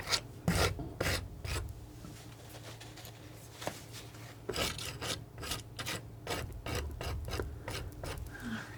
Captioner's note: scratching